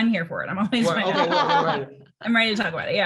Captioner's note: laughs drown out Robin